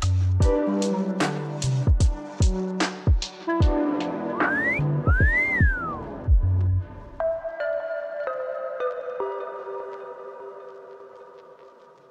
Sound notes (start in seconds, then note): 5.0 wolf whistle